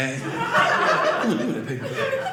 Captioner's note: audience laughing